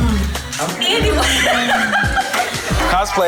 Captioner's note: laughs